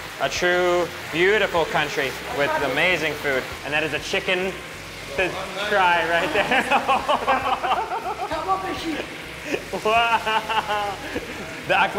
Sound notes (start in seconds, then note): 6.2 laughing; 6.3 all laugh; 6.8 chef speaking foreign language; 8.8 chef speaking foreign language; 10.7 laughing